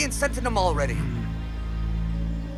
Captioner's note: growls